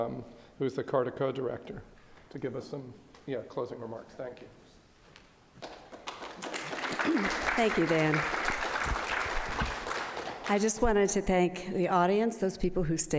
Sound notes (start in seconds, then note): 5.9 audience applauds